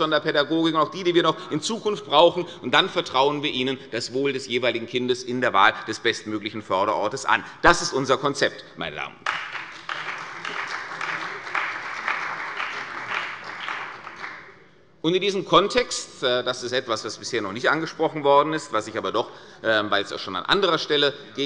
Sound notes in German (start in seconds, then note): 9.2 Beifall bei der CDU und dem BÜNDNIS 90/DIE GRÜNEN